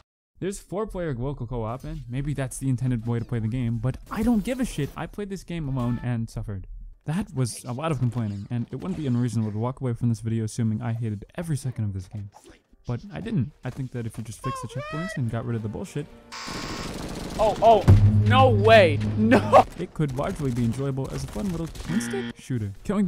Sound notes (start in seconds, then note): 17.9 desk slam; 19.2 laughing